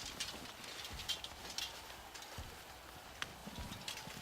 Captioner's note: distant shouting